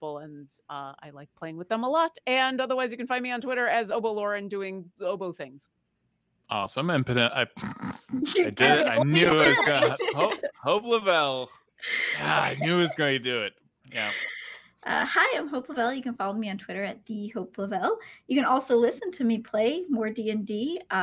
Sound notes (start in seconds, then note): 7.1 stammers and laughs; 12.2 groans